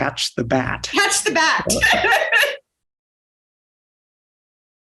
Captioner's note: laughing